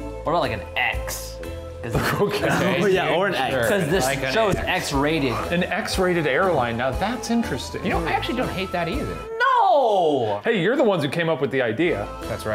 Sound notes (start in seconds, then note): 2.0 laughs